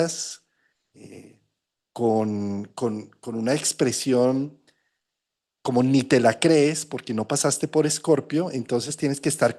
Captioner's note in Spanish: resoplido